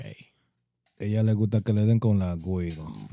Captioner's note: speaking In Foreign Language